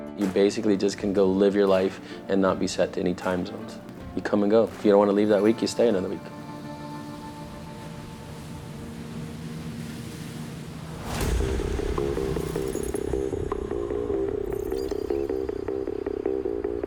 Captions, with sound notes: You basically, just can go live your life and not be set to any time zones. You come and go. If you don't wanna leave that week, you stay another week. (engine purring) (suspenseful music)